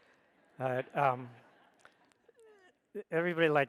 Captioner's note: audience laughs